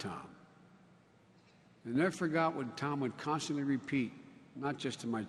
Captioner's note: none